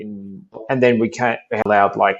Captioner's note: audio distorting